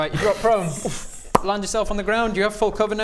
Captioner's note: pop